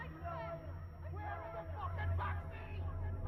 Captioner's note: faint shouting in distance